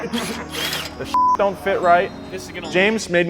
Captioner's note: laughs; beep